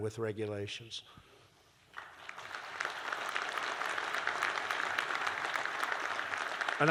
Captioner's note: applause